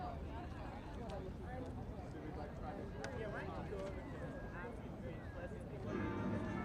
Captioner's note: indistinct chatter